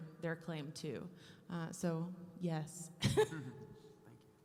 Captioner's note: laughing